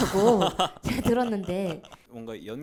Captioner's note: laughs